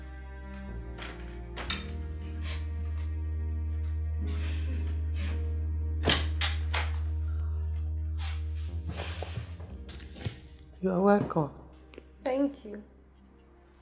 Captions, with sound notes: (Door open and closes) You are welcome. -Thank you.